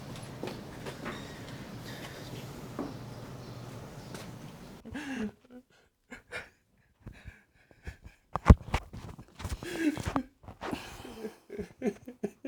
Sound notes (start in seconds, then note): 5.4 Gerald crying; 8.6 microphone muffles